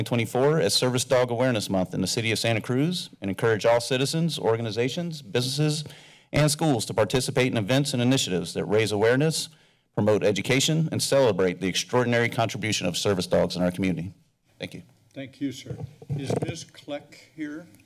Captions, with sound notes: - Mayor Keeley? - Aye. Motion passes and so ordered. Again, by way of alerting you, I suspect we will be back here about three or so. We stand adjourned into closed session. [Thuds]